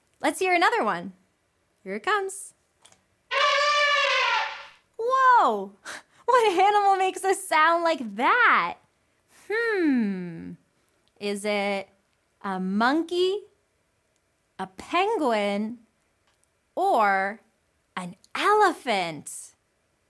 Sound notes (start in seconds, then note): 3.3 elephant trumpets